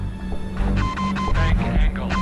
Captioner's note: beeping